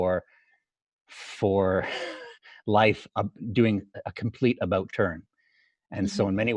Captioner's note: laughs